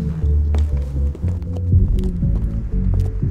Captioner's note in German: Schritte